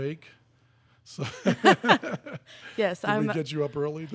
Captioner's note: laughing